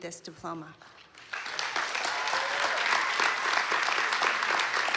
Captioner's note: applause